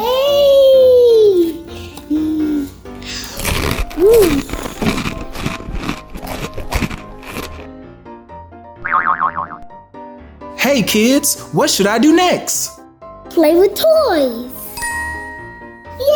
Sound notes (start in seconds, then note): 3.0 crunching; 8.8 boinging; 14.7 magical ting